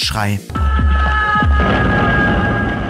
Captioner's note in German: Schrei